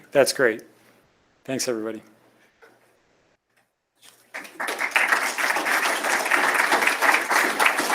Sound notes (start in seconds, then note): 4.2 applause